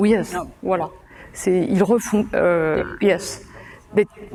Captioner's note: speaking french